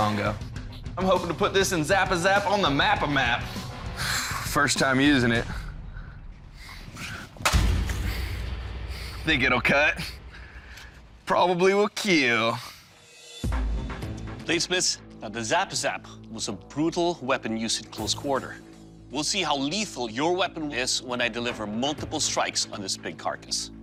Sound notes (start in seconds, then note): 7.4 crash; 12.5 dramatic music